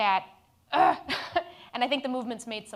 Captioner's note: groans